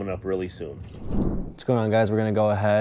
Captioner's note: graphics whooshing